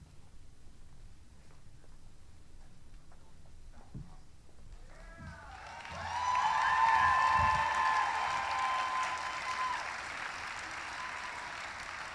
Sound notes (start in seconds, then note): 2.5 applause; 2.5 cheering